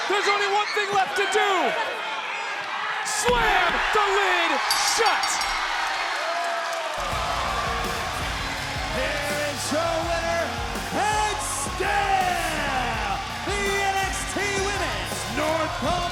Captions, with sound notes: There's only one thing left to do. Slam the lid shut. (bell rings) (crowd cheers) There is your winner, and still the NXT Women's North American champion,